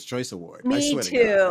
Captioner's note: laughter